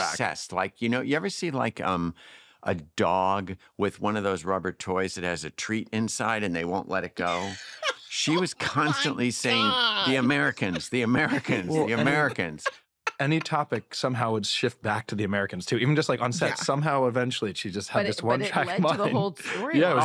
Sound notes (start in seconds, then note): 7.2 laughs